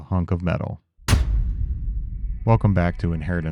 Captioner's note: switch clacks